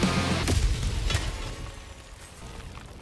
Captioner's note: Hellpod landing